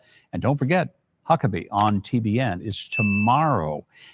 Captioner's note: bell dinging